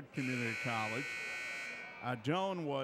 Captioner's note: buzzer buzzes